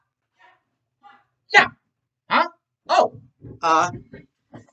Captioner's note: grunting and punching